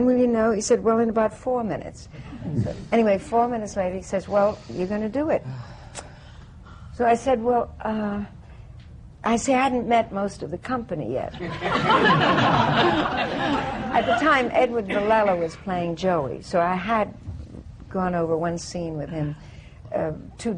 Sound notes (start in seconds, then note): 11.3 laughter